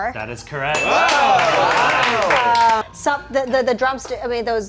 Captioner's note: movers clapping